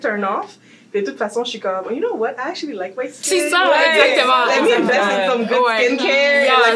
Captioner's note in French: bruits de joie